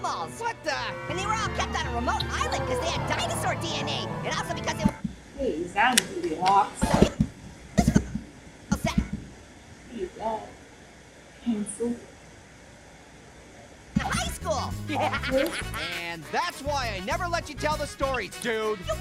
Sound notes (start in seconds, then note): 14.0 Orange laughs